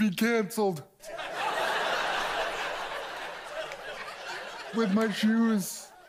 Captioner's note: audience laughs